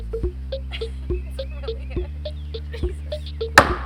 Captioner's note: laughing